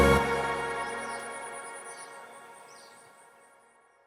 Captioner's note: birds chirping